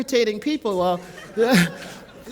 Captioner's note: laughter